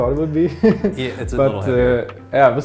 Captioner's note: laughing